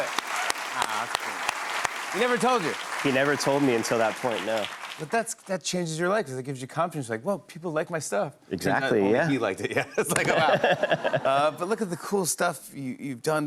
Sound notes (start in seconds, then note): 0.0 applause; 9.9 laughs